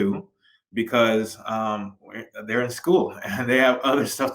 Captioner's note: giggles